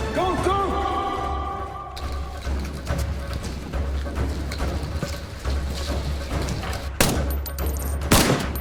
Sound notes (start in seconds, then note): 1.2 dramatic music; 2.7 guns banging